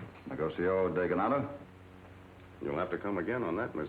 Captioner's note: speaks in Spanish